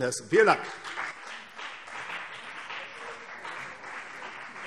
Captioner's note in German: Beifall CDU und BÜNDNIS 90/DIE GRÜNEN